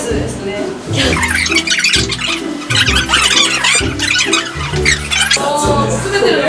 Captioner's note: boiling